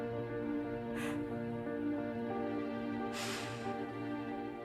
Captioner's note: sniffles